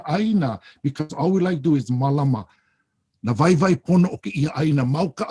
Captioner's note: speaks Hawaiian; speaks Hawaiian